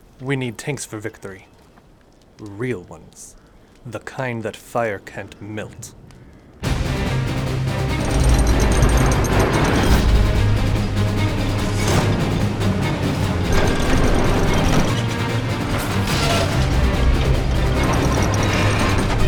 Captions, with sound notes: We need tanks for victory. Real ones. The kind that fire can't melt. (suspenseful orchestral music) (clicking)